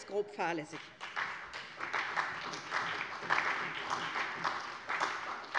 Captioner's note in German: Beifall bei der SPD